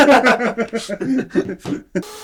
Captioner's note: laughter